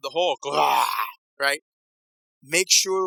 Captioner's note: growls